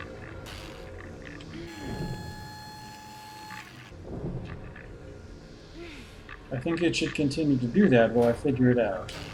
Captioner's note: grunting